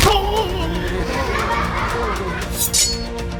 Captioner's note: laughter